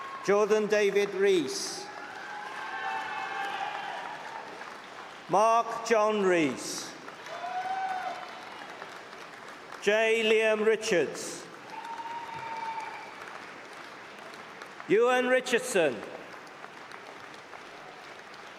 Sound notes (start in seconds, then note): 0.0 cheering; 2.5 applause and cheering; 9.4 applause